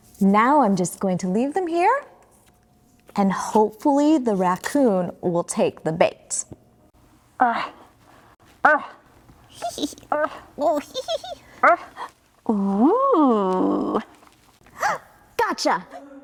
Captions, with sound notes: Now I'm just going to leave them here, and hopefully the raccoon will take the bait. (raccoon grunting and giggling) - Oo! - Gotcha.